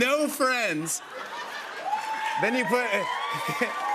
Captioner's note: cheers and applause